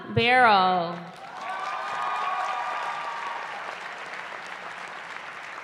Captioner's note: cheering